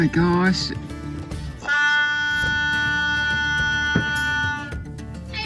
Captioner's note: loud ferry horn sounds